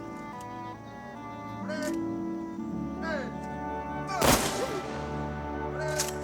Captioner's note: gunshots